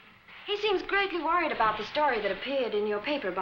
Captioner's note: none